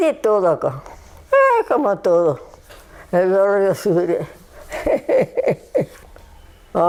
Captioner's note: she laughs